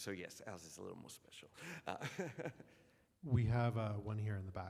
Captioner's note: laughs